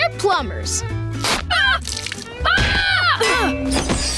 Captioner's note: screaming